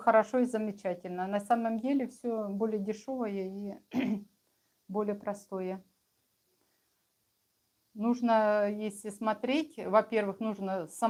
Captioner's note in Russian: откашливается